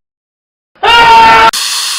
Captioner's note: screaming in pain